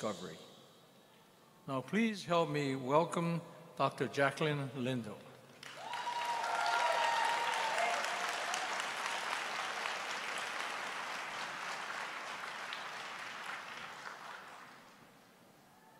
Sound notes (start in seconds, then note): 5.5 applause